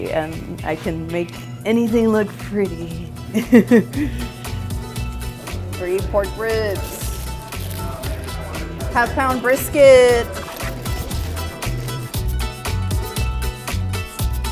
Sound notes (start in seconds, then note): 3.3 laughing; 7.6 upbeat music continues; 10.9 upbeat music continues